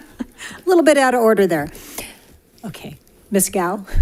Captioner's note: laughs